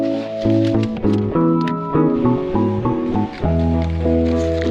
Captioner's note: door opening